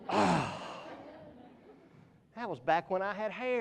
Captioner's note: audience laughs; groans